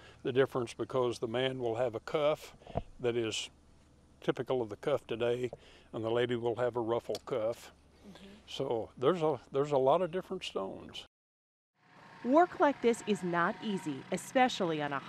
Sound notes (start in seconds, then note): 11.8 background tractor noise